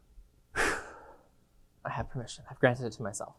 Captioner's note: exhales